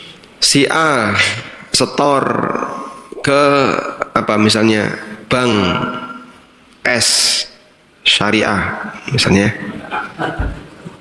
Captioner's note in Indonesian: tertawa